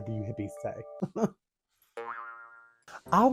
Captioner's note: metaphysical giggle